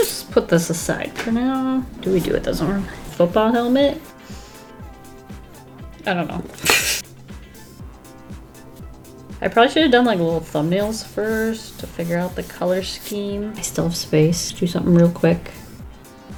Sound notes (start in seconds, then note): 6.9 laughs